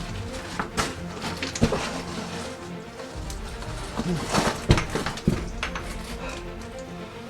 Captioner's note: gravel shuffling